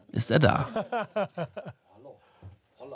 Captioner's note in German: Lachen